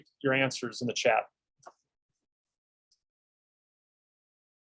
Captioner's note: silence